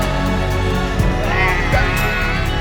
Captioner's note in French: Cris de réjouissance et de folie